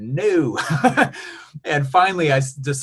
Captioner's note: laughs